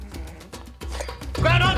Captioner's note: sighs